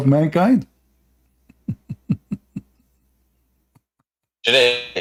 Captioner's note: Ketawa